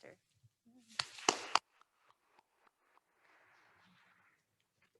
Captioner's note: attendees applauding